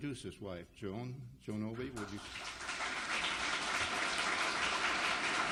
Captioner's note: audience applauds